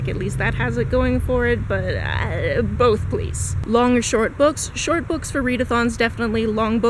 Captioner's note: indecisive noise